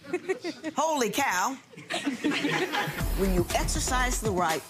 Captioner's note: laughing